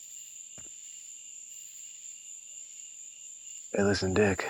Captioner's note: crickets chirping